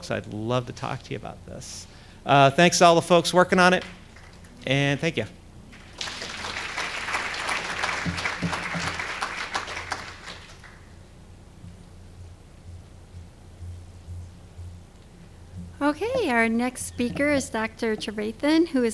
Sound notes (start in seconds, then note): 5.7 applause